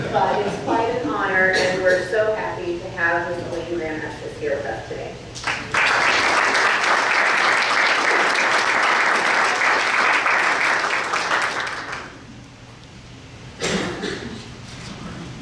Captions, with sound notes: (audience laughs) But it's quite an honor and we're so happy to have Mrs. Elaine Graham Estes here with us today. (applause)